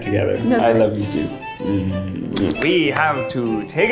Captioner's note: lips smacking